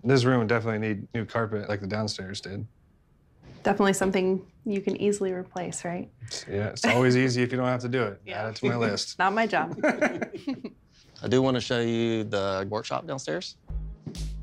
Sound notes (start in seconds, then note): 9.2 laughing